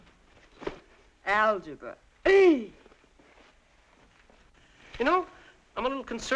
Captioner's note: groaning